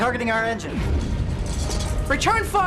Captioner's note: explosion